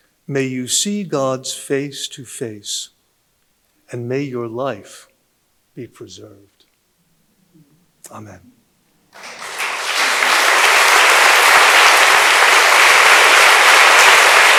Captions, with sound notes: May you see God's face to face and may your life be preserved. Amen. (audience applauding)